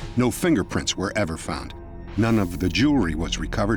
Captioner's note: none